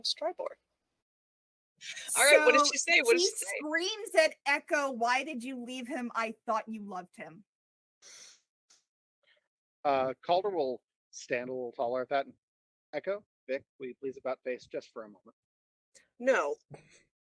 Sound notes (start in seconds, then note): 8.0 harsh inhale